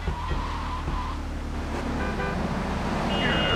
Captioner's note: ominous music; horn honking